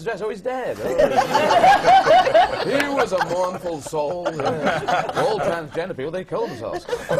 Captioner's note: laughter